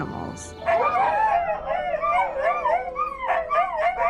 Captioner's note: dogs howling